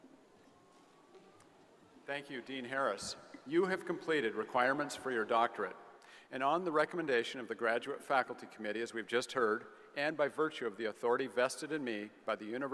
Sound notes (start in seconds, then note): none